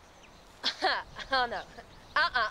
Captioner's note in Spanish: riéndose